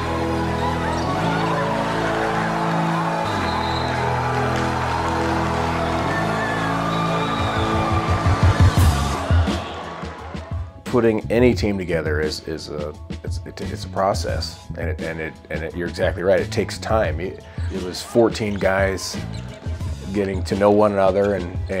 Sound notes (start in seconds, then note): 1.3 cheering